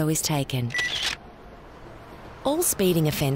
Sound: camera clicks

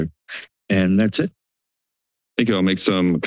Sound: silence

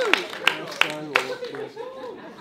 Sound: murmur

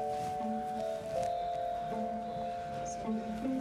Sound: birds squawk outside

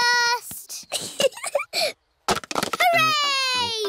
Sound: giggling

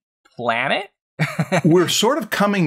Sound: laughs

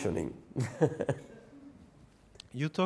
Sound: laughing

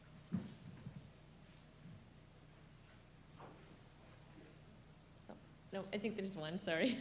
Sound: silence

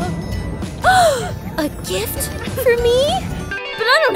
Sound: gasping

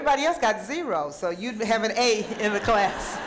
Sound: audience laughing; audience member speaking

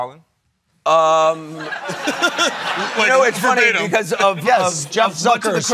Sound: laughing

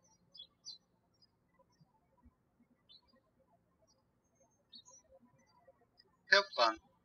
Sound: birds chirping

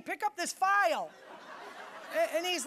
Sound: audience laughing

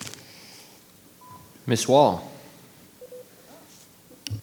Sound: microphone beeping

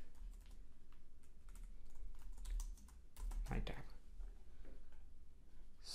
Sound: typing

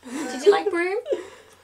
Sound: laughs

